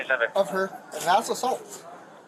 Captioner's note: radio chatter